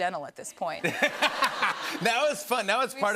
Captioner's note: laughter